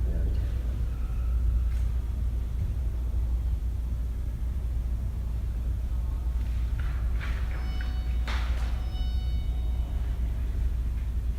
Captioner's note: whispers